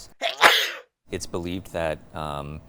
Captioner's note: person sneezing